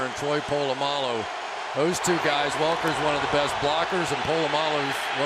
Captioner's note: crowd cheering